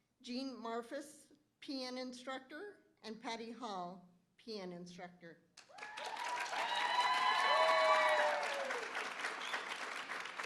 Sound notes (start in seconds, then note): 5.6 applause; 5.7 cheering